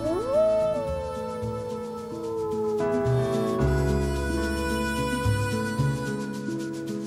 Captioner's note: howl